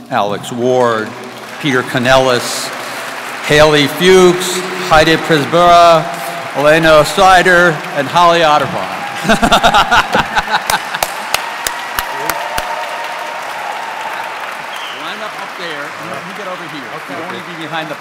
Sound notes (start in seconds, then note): 10.0 audience clapping; 13.0 audience cheering